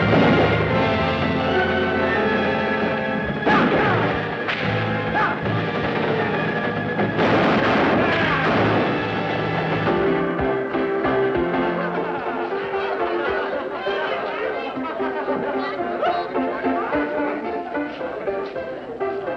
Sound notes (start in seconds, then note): 0.0 gunshot; 0.0 horses whinny; 4.4 whip cracks; 7.0 gunshots; 10.0 bell rings